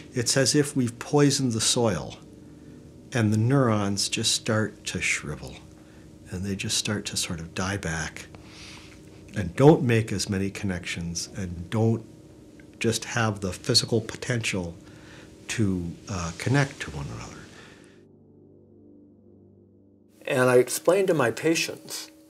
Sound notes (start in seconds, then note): 14.7 soft air whooshing; 17.8 slow cool music